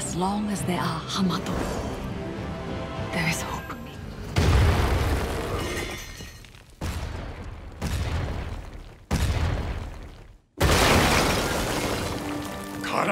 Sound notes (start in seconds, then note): 3.9 thudding; 6.4 stomping